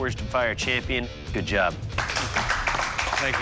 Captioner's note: applause